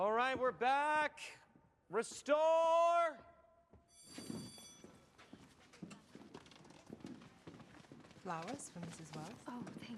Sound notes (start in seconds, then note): 3.9 bell rings